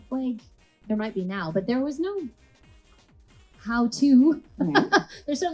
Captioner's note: laughs